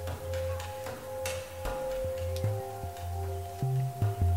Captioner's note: distant sounds of men fighting